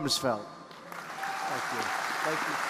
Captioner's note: audience applauding